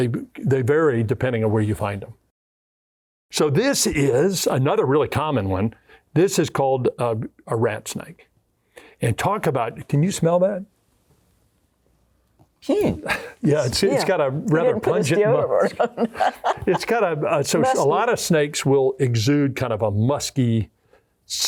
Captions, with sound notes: they vary depending on where you find them. So this is another really common one. This is called a rat snake. And talk about can you smell that? Hmmm. Yeah. It's it's got a rather pungent odor. (laughing) It's got a... so a lot of snakes will exude kind of a musky scent.